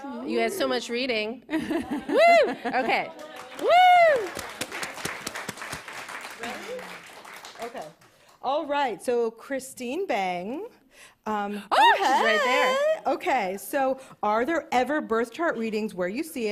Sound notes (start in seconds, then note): 1.5 cheers; 3.0 applause